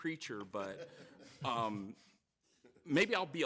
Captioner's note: audience laughing